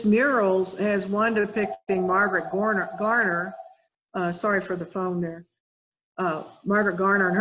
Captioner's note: phone rings